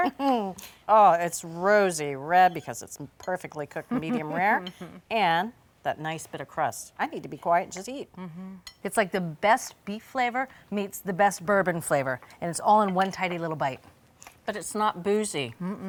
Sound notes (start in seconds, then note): 0.3 laughing; 3.8 laughing